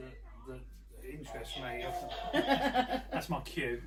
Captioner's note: soft toy plays once again